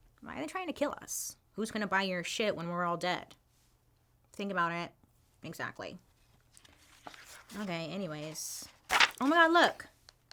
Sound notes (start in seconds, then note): none